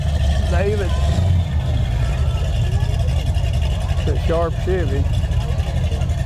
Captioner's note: revving continues